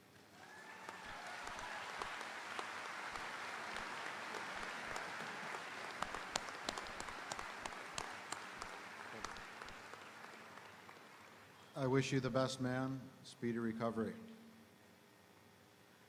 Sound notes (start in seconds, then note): 1.1 audience applauding; 1.1 audience cheering